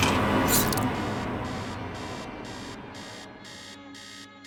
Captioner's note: alarm buzzing